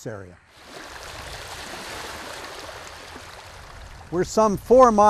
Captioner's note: water whooshing